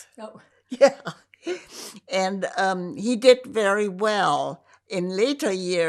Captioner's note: laughing